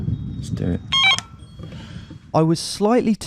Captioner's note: intercom rings